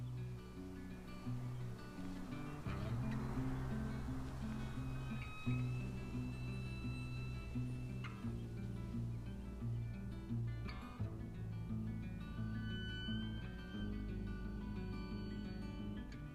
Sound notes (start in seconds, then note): 3.1 wind blowing; 5.5 somber music